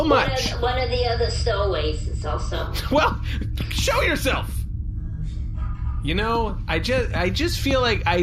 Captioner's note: shouts